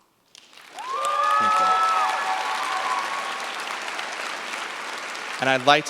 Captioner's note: cheers, applause